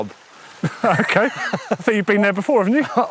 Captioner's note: laughs